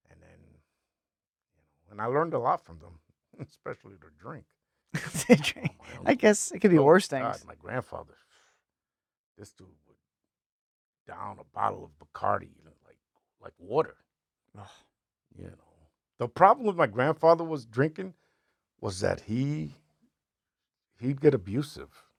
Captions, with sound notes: And then, and I learned a lot from them, especially their drink. (laughing) I guess it could be worse things. My grandfather, this dude was down a bottle of Bacardi. Like water. The problem with my grandfather was drinking was that he'd get abusive.